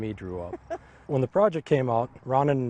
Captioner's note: chuckles